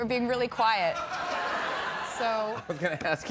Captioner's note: laughter